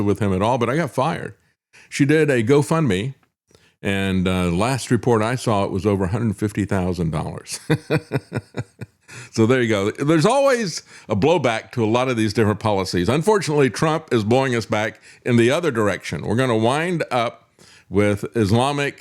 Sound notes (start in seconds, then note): 7.5 laughs